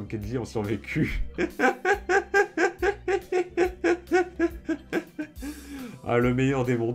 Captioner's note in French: Rires